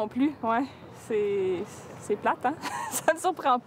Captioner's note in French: rires